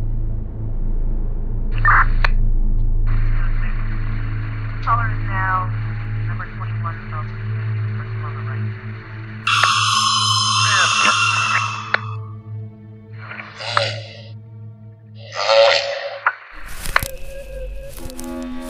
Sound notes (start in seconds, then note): 9.4 high pitched scream; 13.4 deep, demonic grunts; 16.5 branch rustling